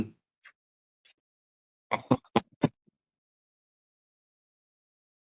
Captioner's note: laugh